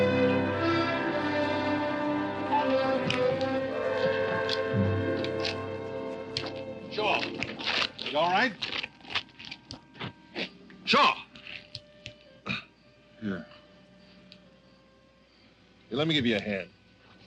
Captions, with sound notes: (tires screech) - Shaw, you all right? - (soft dramatic music) Shaw? (coughs) Here. Here, let me give you a hand.